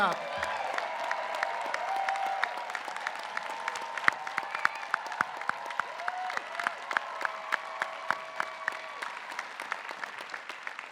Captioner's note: applause